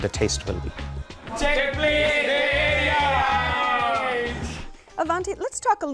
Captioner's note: speaking native language